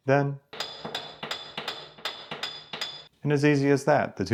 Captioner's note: hammer clanging